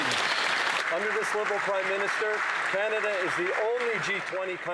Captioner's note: some Applause